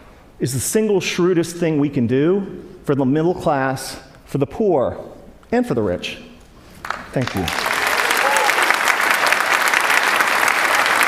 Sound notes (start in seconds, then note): 6.8 applaud